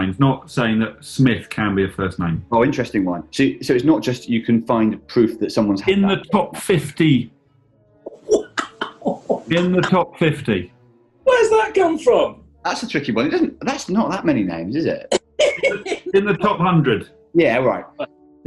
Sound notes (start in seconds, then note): 8.1 chortling; 15.1 laughing